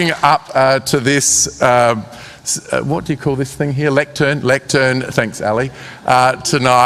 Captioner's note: applause